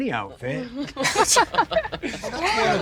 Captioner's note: people laughing